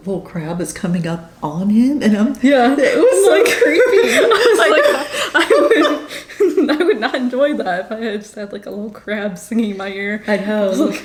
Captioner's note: laughs